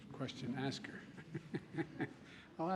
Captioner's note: laughs